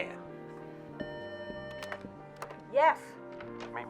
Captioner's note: telephone buzzing